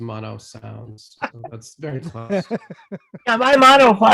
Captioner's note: viewers laughing